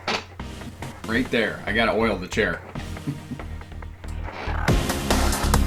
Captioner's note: laughs; upbeat techno music